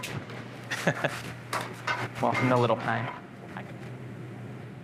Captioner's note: laughs